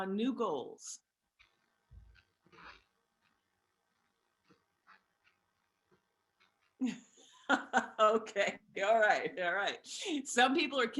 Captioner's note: laughter